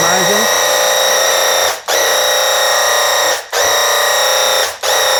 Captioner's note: paint gun blasting